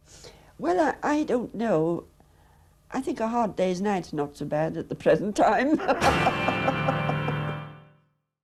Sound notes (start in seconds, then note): 5.7 chuckles